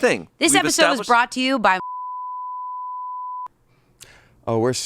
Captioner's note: beep